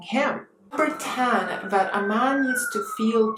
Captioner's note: siren blaring